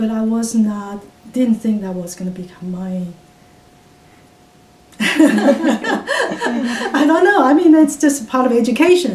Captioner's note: all laughs